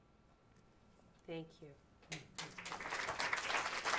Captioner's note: applause